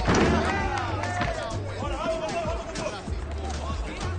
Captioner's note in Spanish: Vitoreo